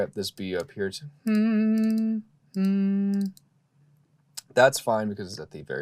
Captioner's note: humming